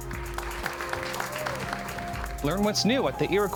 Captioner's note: crowd claps